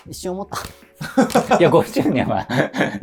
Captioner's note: laughing